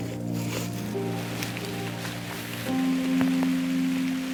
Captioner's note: rain